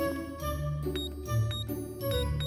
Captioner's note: keypad taps